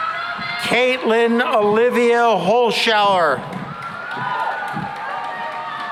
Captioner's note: cheering and applause